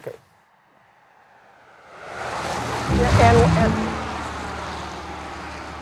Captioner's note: loud truck